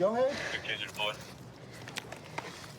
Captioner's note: radio cahtter